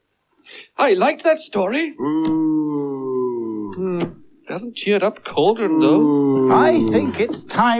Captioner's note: cauldron Groans Loudly; cauldron Groans Again